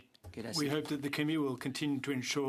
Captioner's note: speaking French